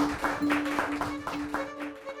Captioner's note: applause; relaxing music